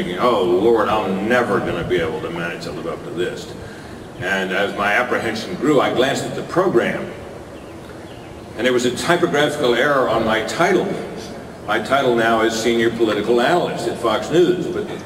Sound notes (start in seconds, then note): none